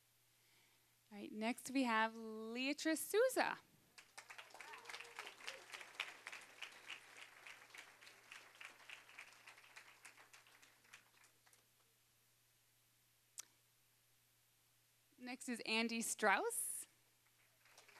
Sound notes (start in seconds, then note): 3.9 applause; 17.3 applause